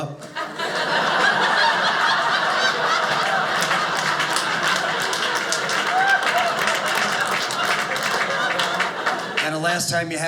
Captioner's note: audience laughing